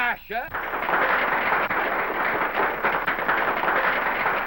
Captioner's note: applause